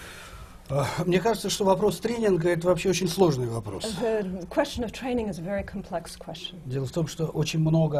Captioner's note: foreign language not transcribed